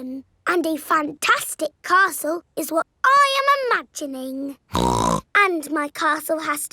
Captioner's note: snorts